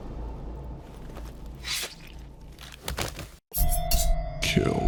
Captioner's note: sound of a blade being pulled out of flesh